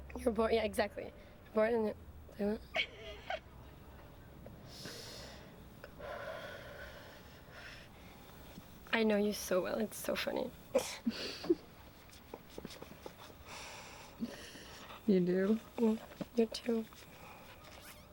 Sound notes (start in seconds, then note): 2.7 laughs; 12.1 laughing